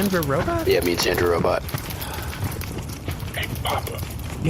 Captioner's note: whispering